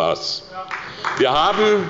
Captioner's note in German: Beifall bei der SPD